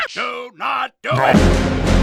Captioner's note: panic noise